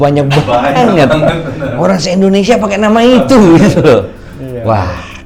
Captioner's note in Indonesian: tertawa